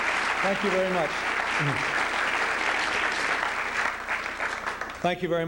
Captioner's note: applause